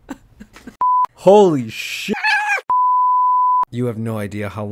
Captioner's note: meow